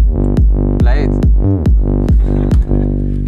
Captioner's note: laughs